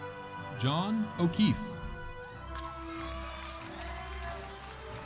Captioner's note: audience applauding